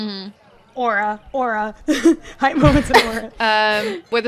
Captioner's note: laughing; laughter